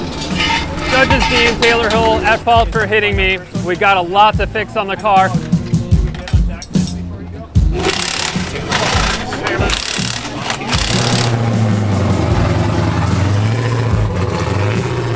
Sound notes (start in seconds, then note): 7.7 impact wrench rattling; 11.7 engine purring